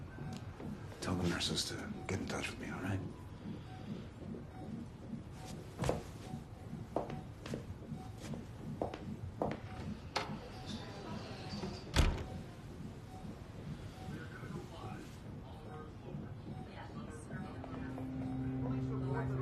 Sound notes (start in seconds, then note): 3.0 heart monitor beeping; 9.4 door opening; 11.6 door closing